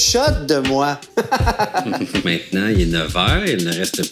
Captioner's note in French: rire